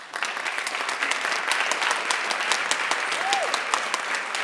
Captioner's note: audience applauding